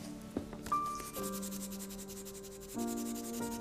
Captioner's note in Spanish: Ruido de lápiz sobre papel